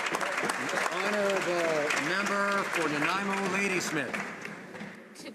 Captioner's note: some Applause